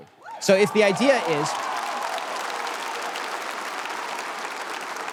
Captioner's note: audience cheers